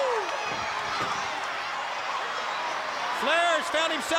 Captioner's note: crowd cheering